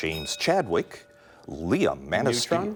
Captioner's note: ding